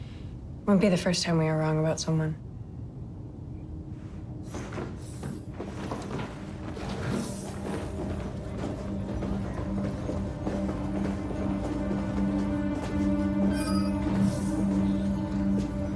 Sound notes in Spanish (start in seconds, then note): 11.7 pitido